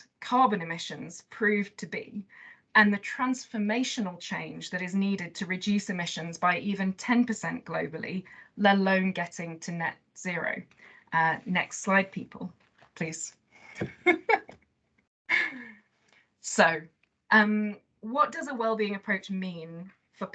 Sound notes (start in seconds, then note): 13.8 laughs